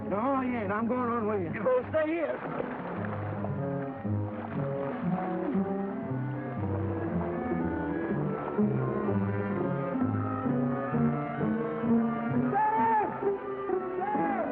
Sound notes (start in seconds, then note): 3.5 suspenseful music; 3.5 water splashes